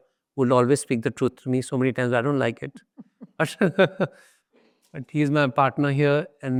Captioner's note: chuckles